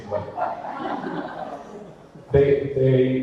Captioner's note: audience laughter